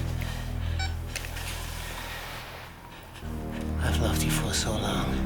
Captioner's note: camera beeps